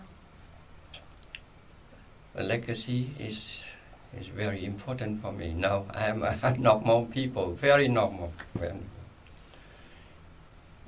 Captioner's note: laughs